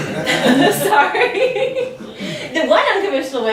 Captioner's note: laughs